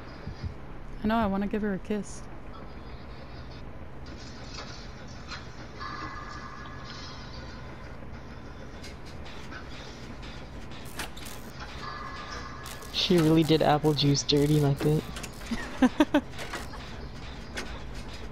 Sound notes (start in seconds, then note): 15.4 laughs